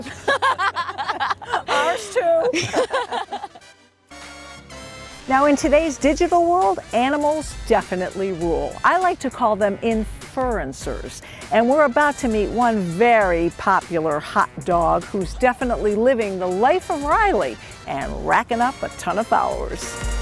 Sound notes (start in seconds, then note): 0.0 laughs; 2.3 laughter